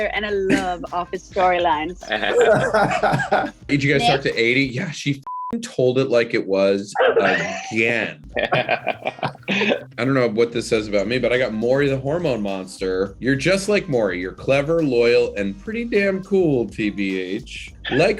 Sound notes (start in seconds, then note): 2.0 Brandon laughs; 5.2 beep; 8.2 Brandon and Aidy laughing